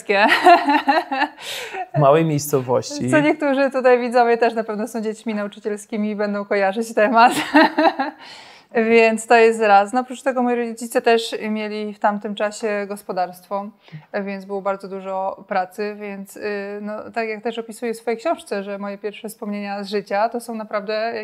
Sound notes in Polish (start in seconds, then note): 7.2 śmiech